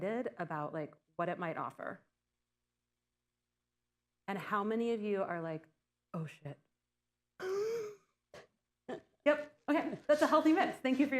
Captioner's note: laughter